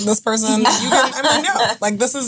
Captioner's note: laughing